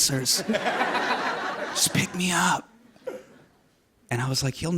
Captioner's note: laughter